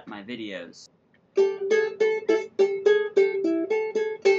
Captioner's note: plucking sounds